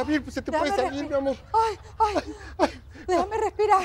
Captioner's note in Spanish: Risas